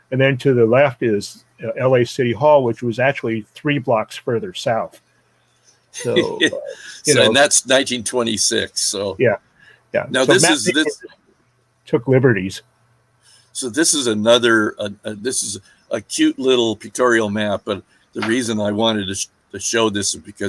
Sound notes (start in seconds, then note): 6.0 laughing